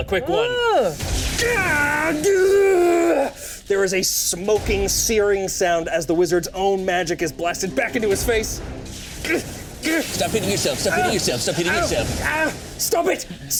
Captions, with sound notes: - Nice easy, quick pull. A quick one. - Ooh. (wizard shouting) - There is a smoking searing sound as the wizard's own magic is blasted back into his face. (wizard grunting) - Stop hitting yourself. Stop hitting yourself. Stop hitting yourself. - Ah! Stop it.